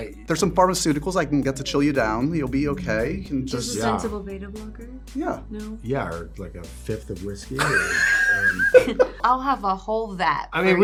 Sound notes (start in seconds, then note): 7.5 laughs